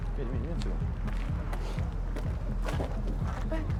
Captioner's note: footsteps